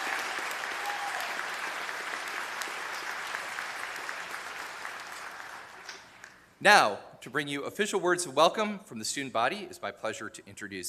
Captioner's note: cheers and applause